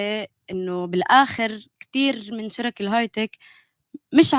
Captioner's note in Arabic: لغة أجنبية